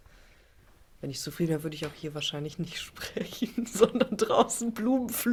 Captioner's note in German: gelächter